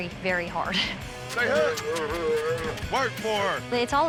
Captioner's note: calf belowing